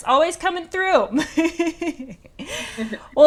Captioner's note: laughs